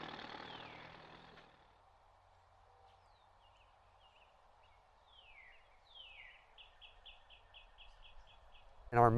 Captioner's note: tractor engine whirring; bird chirping